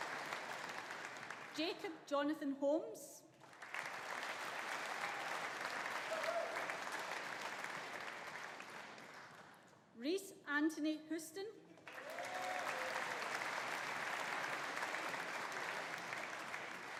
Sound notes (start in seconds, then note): 0.0 audience applauding; 0.0 audience cheering; 3.4 audience applauding; 11.8 audience applauding; 11.9 audience cheering